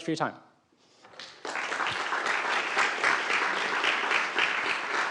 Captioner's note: applause